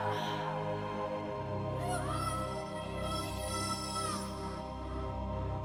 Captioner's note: Ukrainian